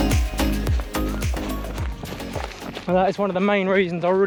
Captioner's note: gravel crunches